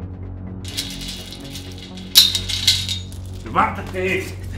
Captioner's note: chains rattling